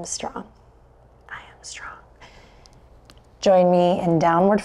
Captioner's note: whispers